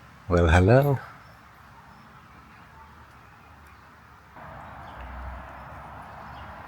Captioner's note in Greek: Τα πουλιά κελαηδούν